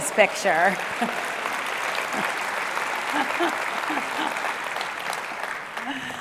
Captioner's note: applause; laugh